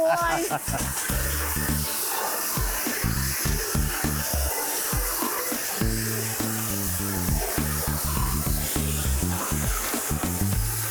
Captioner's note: pressure washing